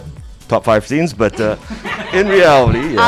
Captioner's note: cast laughing